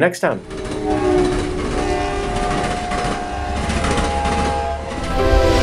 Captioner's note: train whistles down track